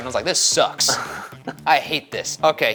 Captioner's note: laughing